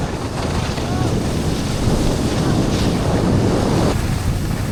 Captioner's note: wind whooshes